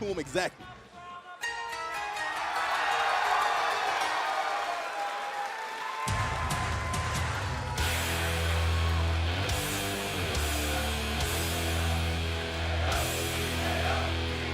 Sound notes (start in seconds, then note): 2.0 cheers and applause